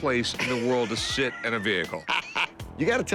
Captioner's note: laughs